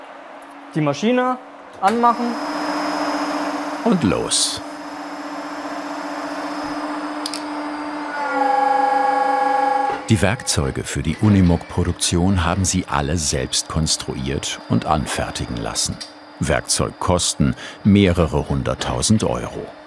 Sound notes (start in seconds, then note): 2.5 whirring